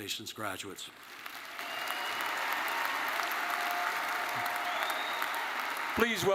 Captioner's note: attendees cheering and applauding